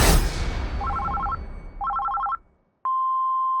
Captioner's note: phone ringing; machine beeping